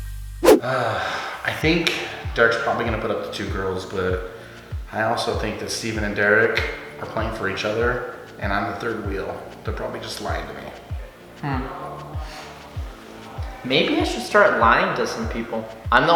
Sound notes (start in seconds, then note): 0.6 sighs